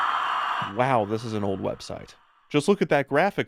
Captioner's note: audience cheers